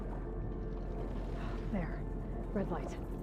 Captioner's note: exhale